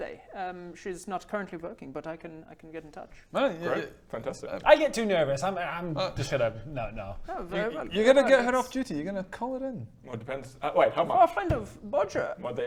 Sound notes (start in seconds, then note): none